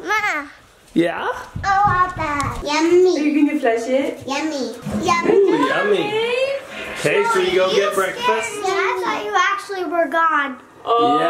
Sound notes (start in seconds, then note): 6.6 toilet flushing